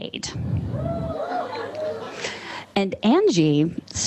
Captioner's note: audience cheers